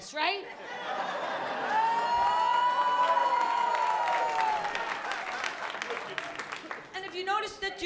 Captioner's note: laughter